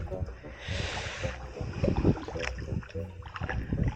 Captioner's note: paddling sound